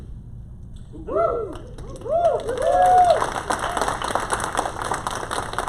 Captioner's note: applause